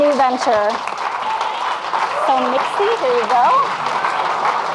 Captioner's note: audience clapping and cheering